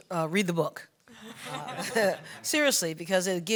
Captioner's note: audience laughs